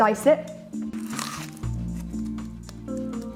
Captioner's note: onion crunches; mellow music